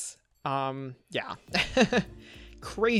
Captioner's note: laughs